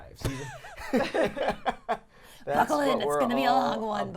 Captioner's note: laughing